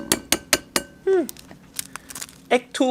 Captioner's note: egg shell crackling; clanking